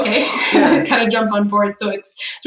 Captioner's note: laughs